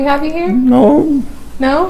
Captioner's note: laughing